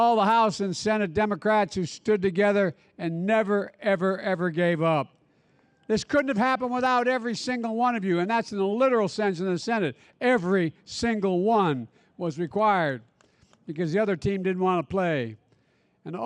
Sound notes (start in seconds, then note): none